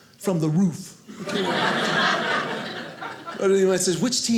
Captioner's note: audience laughing